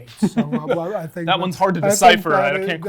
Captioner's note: laughs